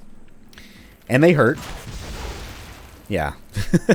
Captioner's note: fwoosh; laughs